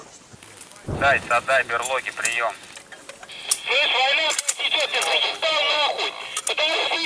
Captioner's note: Chatter on the captured Russian radio